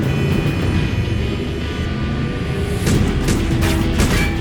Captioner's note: tires screeching; horns honking